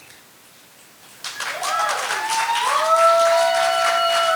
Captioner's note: audience applauding